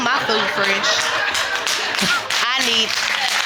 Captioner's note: audience cheering